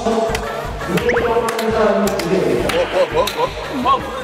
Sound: hahaha

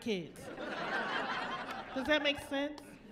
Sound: laughing

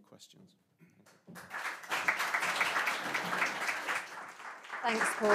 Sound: applause

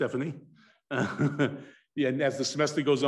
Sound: chuckles

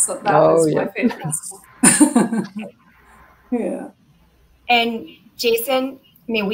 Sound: laughter

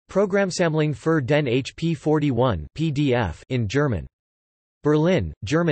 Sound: in German

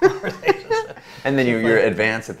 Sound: both laughing

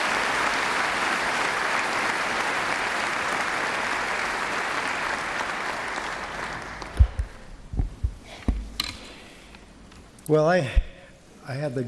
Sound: applause

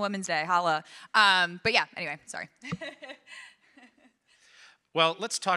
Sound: chuckles

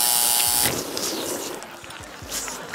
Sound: buzzing; slurping

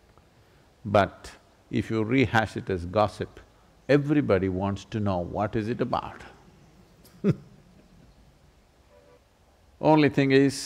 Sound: laughs

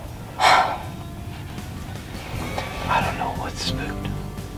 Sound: whispering

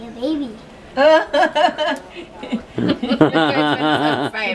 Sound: laughs

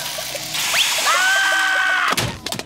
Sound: screaming

